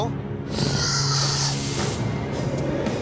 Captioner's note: growling